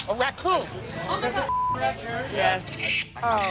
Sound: beep

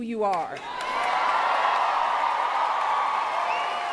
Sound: cheering

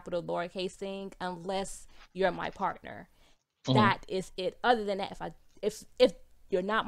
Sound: none

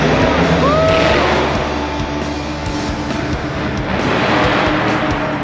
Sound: truck engine revs

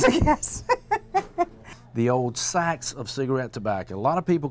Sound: laughter

